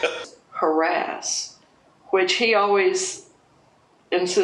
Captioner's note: laughs